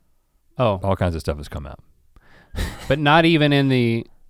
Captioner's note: chuckles